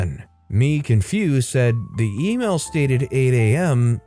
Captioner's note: confused